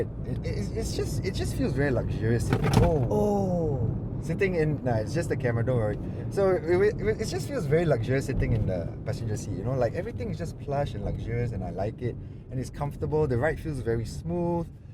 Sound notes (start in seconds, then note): 2.4 camera drops